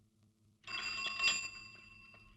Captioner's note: cycle bell rings